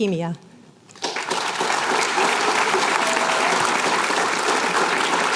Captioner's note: applause